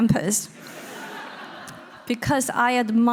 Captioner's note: audience laughing